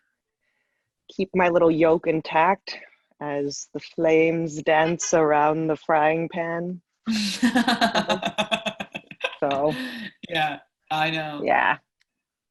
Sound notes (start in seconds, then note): 7.2 laughter